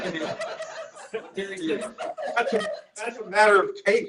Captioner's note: laughter